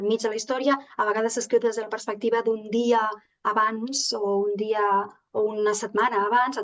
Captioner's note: continues speaking in Catalan